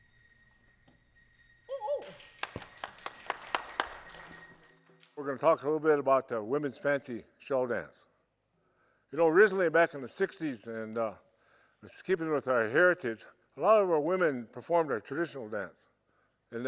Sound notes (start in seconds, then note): 1.7 person whoops; 2.0 people clap